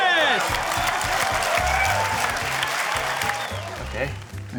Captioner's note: cheering, applause